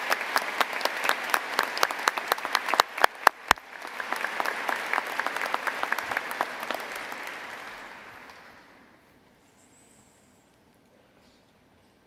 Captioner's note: applause